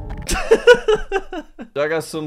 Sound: laughs

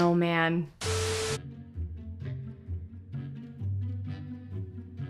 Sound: broadcast signal

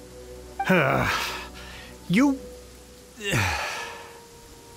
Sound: grr; sigh

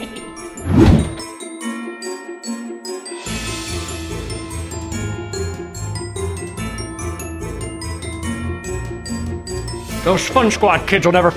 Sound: Christmas bells chiming

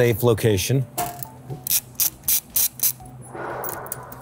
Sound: tool clicking

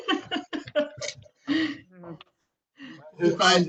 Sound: chuckling

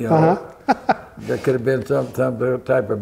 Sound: laughter

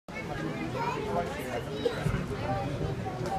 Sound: various people in crowd talking

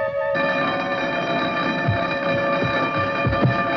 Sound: doorbell blaring

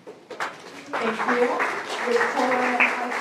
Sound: applause

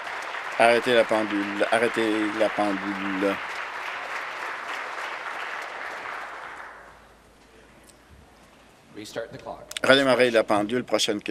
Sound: applause

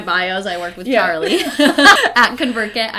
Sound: laughs

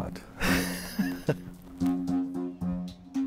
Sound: chuckles

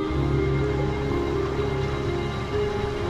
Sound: water flowing

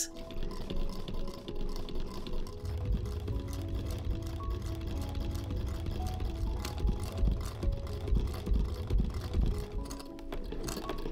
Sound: delicious, soft whirring of our antique sewing machine

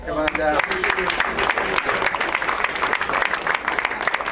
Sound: crowd applauds

